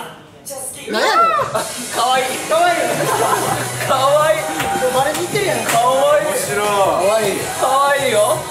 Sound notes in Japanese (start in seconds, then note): 2.9 笑い